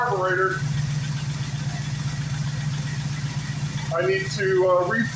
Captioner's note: engine idling